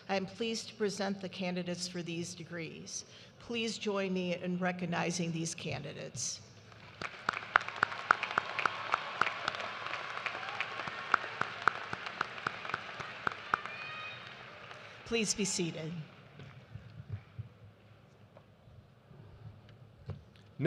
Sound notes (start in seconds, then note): 9.4 cheers and applause